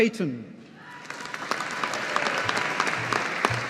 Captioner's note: audience applauding